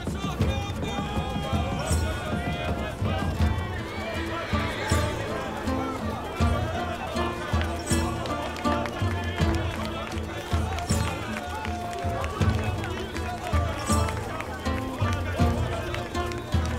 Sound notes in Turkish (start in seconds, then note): 7.8 Alkış sesleri